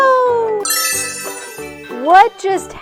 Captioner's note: magical chime